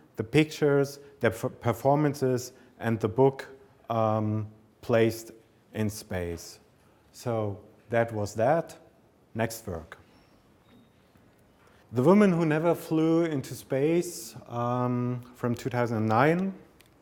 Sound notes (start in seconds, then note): none